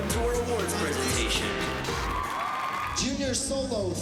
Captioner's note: cheering and applause